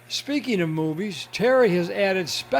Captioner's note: voiceover